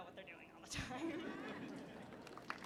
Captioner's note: laughter